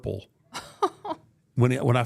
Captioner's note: laughs